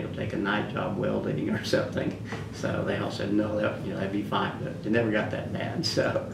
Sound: laughs

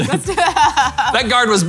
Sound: laughing

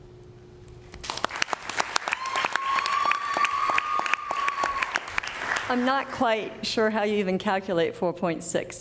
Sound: cheering and applause

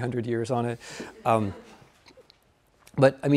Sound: audience laughing

